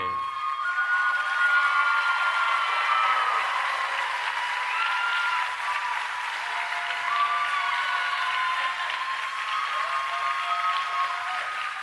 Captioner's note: cheering and Applause